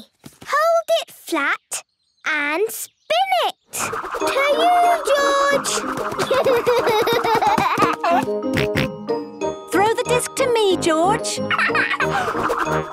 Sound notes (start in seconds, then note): 6.2 giggling; 7.6 snorting; 11.4 laughing